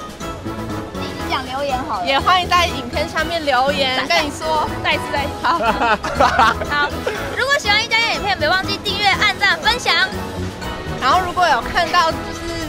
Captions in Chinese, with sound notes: 妳講留言好了 也歡迎在影片下面留言 跟你說 在一次x2 (大笑) 如果喜歡壹加壹的影片別忘記訂閱按讚分享 然後如果有看到 就是~~